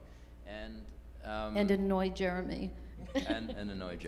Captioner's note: laughs